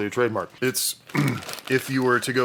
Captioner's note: clears throat